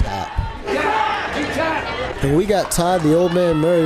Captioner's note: fight & crowd noise